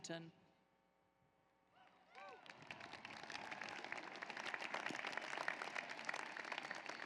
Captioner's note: applause